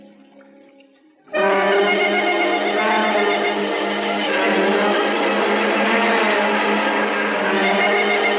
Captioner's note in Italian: SCROSCIO DELL'ACqUA; musica in sottofondo